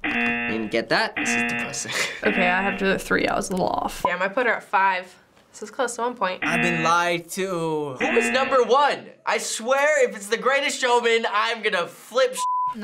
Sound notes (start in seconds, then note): 1.8 chuckles; 8.0 buzzer